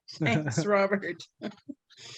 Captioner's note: giggles